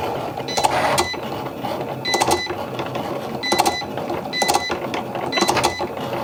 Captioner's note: machine whirring continues